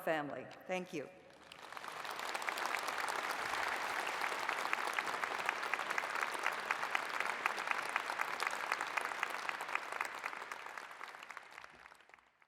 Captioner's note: applause